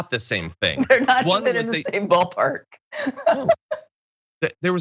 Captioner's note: laugh